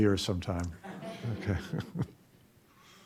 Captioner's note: chuckling